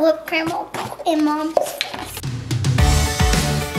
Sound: splatting noise; upbeat music

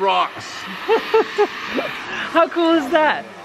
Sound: laughing

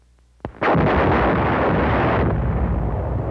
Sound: artillery fire

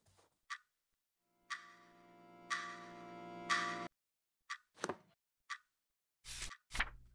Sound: clock ticking

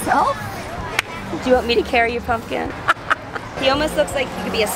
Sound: laughing

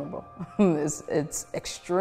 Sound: chuckles

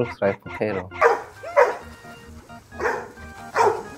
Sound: barking

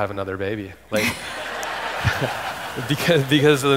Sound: audience laughing

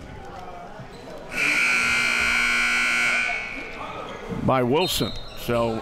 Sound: buzzer sounds

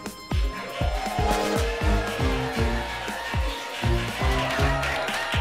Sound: everyone cheering

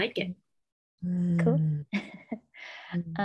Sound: chuckles

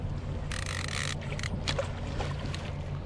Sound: fish splashing

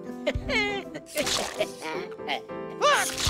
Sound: Vector laughing; paint squelching; Vector laughing; paint squelching

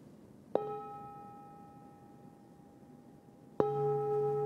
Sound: chiming bowl

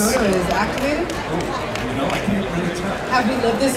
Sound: audience chattering

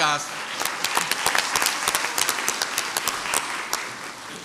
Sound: crowd applauds

